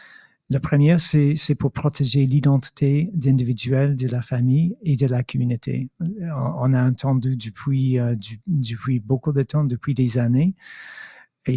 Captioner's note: speaking in French